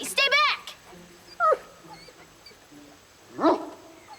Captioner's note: dog whimpers; barks